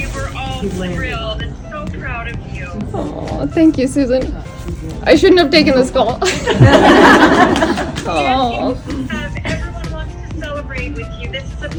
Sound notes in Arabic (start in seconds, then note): 6.2 ضحك